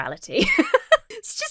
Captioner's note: laughs